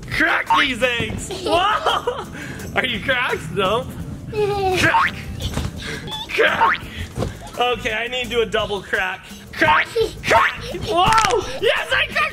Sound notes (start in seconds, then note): 0.8 bounces; 6.0 bounces; 10.8 cracks